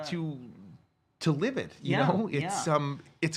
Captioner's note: none